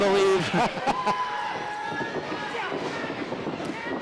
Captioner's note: laughs